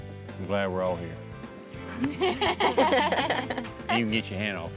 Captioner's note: everybody laughs